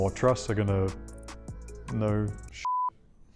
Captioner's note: beep